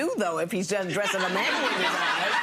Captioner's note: audience laughing